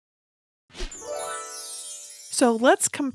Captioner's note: bells twinkle